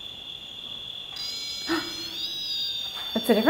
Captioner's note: whining; gasps